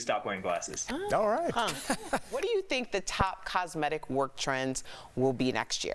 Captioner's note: laughter